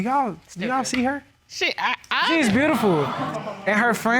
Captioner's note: judge stammers